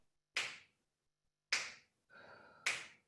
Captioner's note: snapping